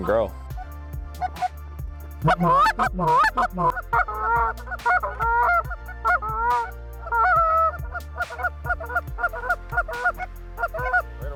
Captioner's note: goose calls